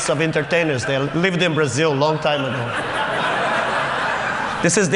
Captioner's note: Laughter; 笑聲